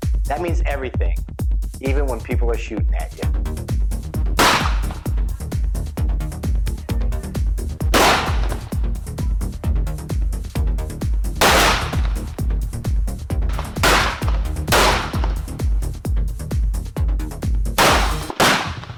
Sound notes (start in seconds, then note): 4.4 gunshots blasting; 4.4 upbeat music; 13.7 gunshots blasting continues; 13.7 upbeat music continues